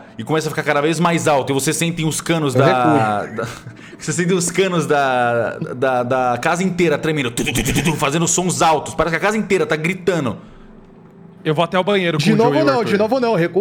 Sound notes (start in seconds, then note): 7.1 tu tu tu